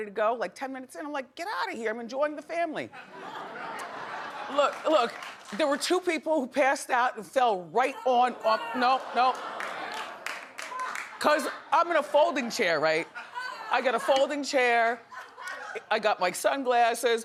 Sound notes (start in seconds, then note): 3.0 audience laughing